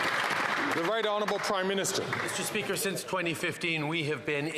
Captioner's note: some Applause